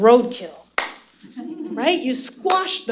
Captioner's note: slap